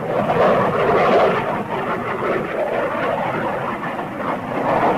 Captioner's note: plane engines roaring